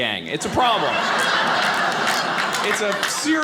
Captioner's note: audience laughing